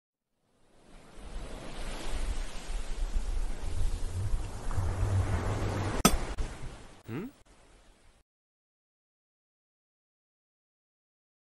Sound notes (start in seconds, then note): 0.5 ocean sounds; 6.0 pickaxe hits stone